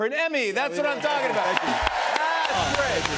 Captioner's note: cheers and applause